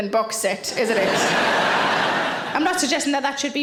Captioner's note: audience laughing